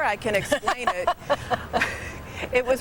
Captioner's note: interviewer laughs